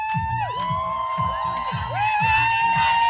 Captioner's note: protesters chanting in Maltese language; crowd cheering